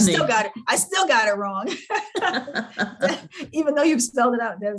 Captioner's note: laughs